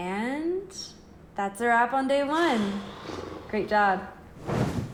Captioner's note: Miguel exhales loudly; bed thuds